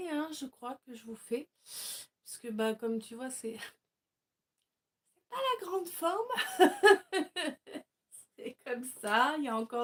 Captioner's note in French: rires